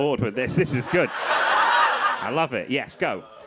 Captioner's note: crowd laughing